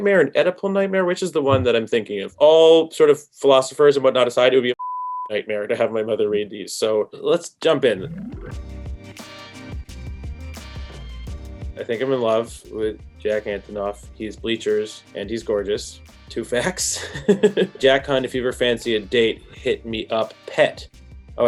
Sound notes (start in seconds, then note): 4.8 beep; 8.0 mellow jazz music; 16.8 laughs